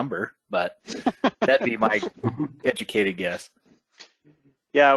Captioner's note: laughter